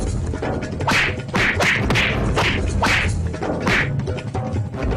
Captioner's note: smack